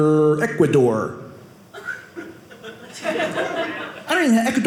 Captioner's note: audience laughing